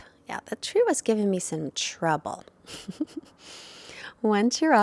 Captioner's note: chuckles